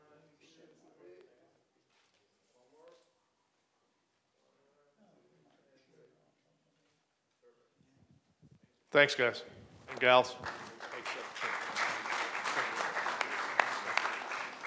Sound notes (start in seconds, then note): 1.7 applause